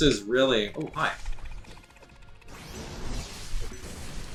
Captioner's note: fighting sounds